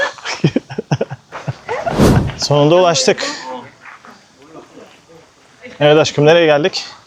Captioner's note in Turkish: kahkaha